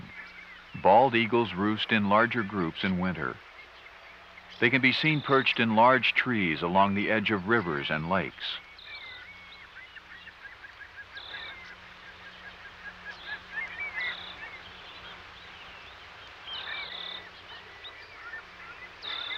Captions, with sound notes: when they’re nesting, bald eagles roost in larger groups in winter. They can be seen perched in larger trees along the edge of rivers and lakes. (nature sounds)